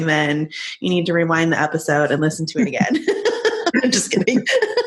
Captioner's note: laughing